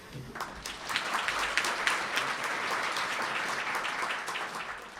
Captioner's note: audience applauding